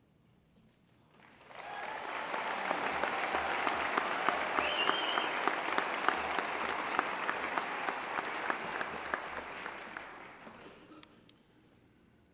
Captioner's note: applause